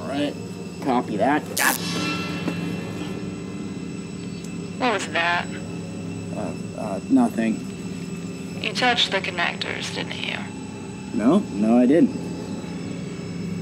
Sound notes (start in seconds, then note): 1.5 electrical zaps; 1.8 Gunderson grunts; 13.4 ominous music continues